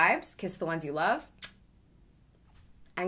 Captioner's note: blowing kiss